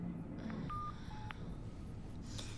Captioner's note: groans